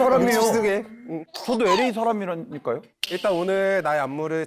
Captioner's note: sound of excitement from making connections